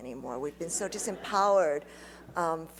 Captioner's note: laughter